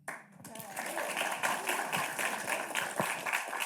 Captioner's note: audience claps